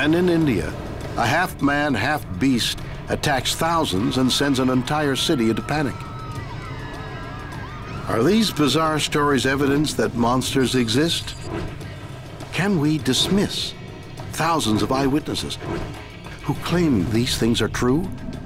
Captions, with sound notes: and in India, a half man, half beast attacks thousands and sends an entire city into panic. (people screaming) Are these bizarre stories evidence that monsters exist? Can we dismiss thousands of eye witnesses who claim these things are true?